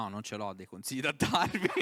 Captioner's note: interviewers laughing for the unexpected reply